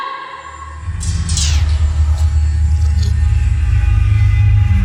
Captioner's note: dramatic sound